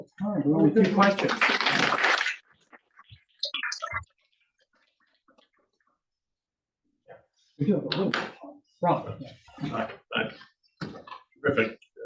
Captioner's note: applause